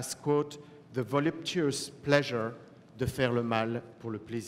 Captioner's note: french